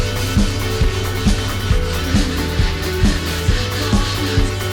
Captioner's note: sanding noises